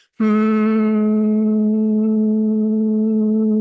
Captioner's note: humming